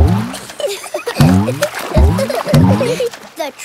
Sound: giggling

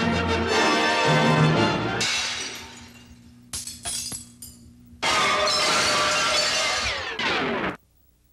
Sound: breaking Glass

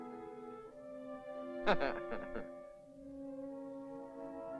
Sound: ominous music; Rick chuckles; ominous music

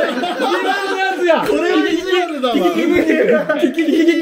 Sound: laughing

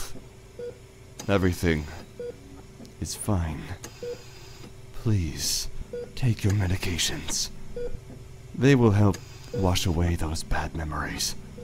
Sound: mechanical ambiance

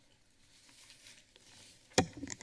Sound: papers flipping

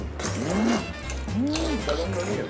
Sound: moaning

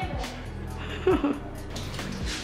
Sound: laughs

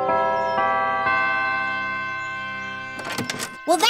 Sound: bells chime

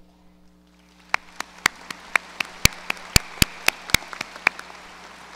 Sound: audience applause

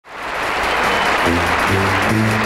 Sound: audience applauding

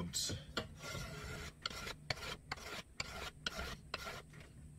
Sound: plane scraping

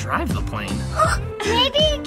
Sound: gasps

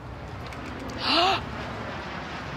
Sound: gasps

